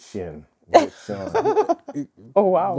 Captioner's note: laughing